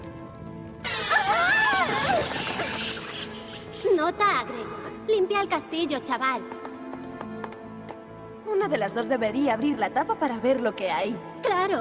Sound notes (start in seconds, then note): 0.8 shrieking